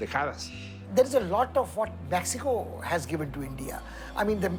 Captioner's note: in English